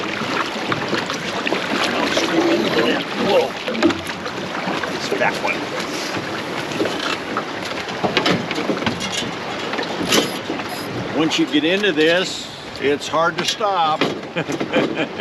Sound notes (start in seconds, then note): 6.4 net rattling; 8.6 water flowing; 14.2 chuckling